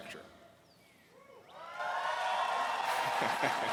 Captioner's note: cheers